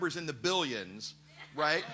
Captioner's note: laughter